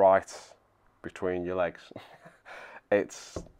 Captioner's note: laughs